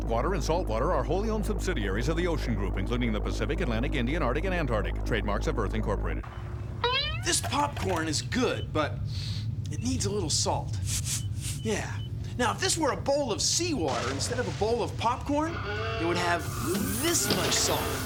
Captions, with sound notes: THIS POPCORN IS GOOD, BUT...[SNIFFS] IT NEEDS A LITTLE SALT. YEAH. NOW, IF THIS WERE A BOWL OF SEAWATER INSTEAD OF A BOWL OF POPCORN, IT WOULD HAVE THIS MUCH SALT.